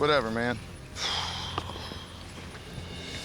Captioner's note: sighs